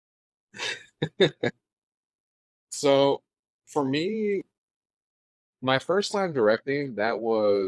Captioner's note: laughing